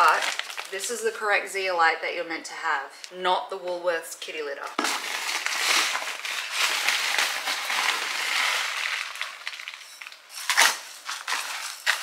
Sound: plastic noise

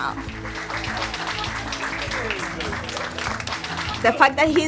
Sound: people clapping

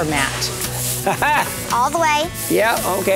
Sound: laughs

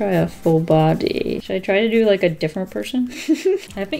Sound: giggles

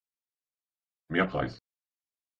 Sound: fast Pronunciation

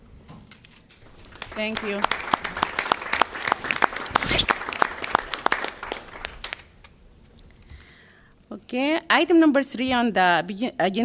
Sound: applause

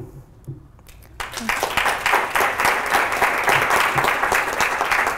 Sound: applause

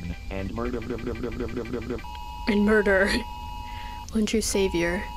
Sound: laughs

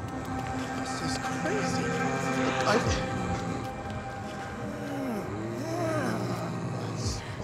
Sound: zombies continue snarling

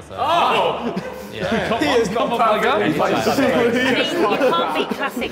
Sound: Sidemen laughing and talking indistinctly

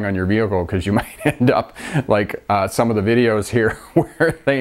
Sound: laughs

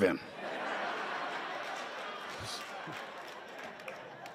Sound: laughter

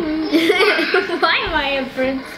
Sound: laughing

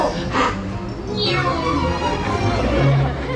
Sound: Mary makes an airplane noise

